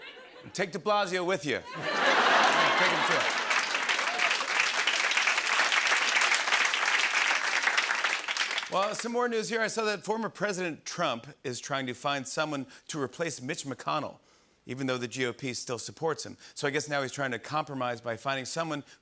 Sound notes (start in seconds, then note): 4.0 applause